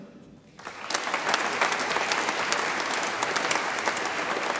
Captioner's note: audience applauds